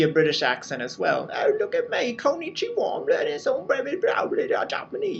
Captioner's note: British accent